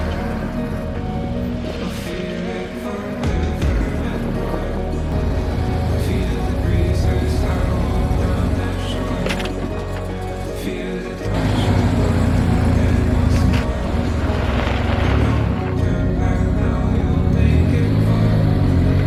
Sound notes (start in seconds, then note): 9.6 stalls engine